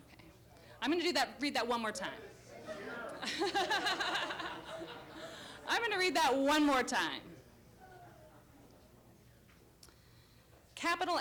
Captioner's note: laughter